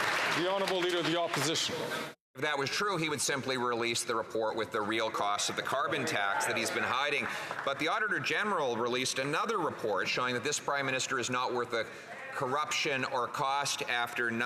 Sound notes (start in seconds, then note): 4.0 some Applause